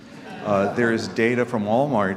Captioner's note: audience laughing